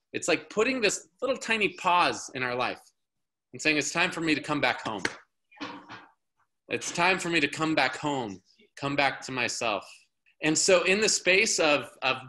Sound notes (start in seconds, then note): none